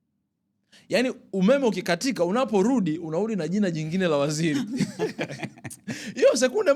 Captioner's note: laughter